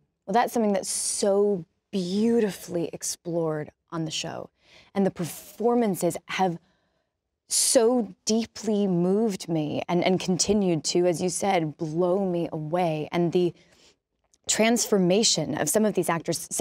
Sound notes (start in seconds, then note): none